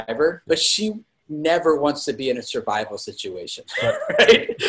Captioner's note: laugh